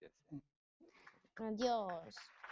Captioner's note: applause